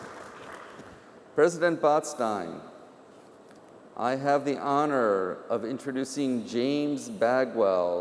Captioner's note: applause